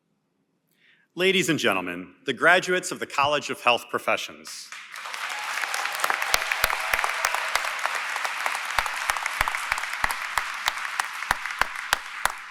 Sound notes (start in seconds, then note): 4.7 applause & Cheering